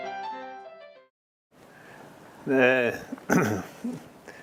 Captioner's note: cough